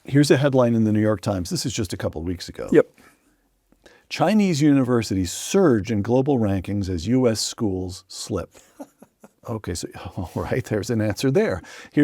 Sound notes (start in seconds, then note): 8.6 laughs